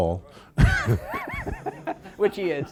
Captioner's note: laughter